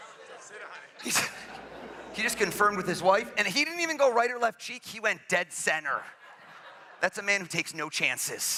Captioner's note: laughs